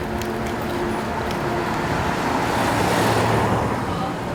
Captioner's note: traffic rumbles